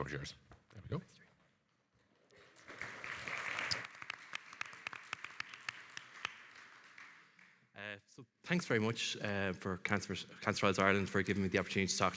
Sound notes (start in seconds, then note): 2.4 audience applauding